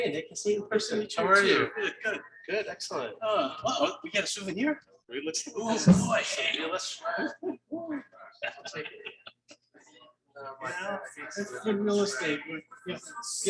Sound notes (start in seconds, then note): 5.9 people chattering indistinctly